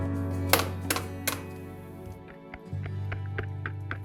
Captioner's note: egg cracking